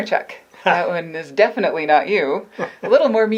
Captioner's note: laughter